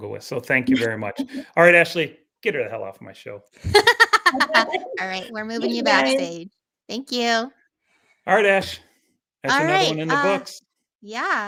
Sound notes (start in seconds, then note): 3.6 laughing